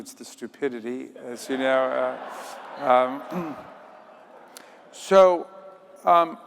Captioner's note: audience laughing